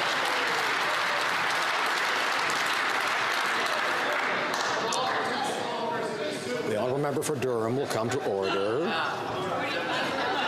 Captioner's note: some Applause